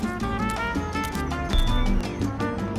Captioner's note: YouBike beeping